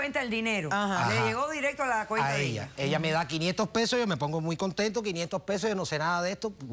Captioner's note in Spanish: Hablan al unísono